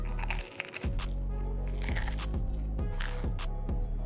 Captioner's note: focaccia crunching